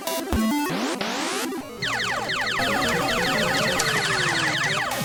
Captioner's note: electronic sound. Arcade game